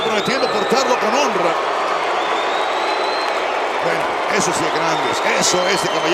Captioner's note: applause